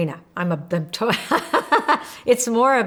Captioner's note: laughs